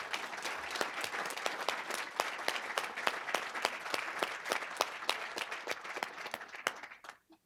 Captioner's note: applause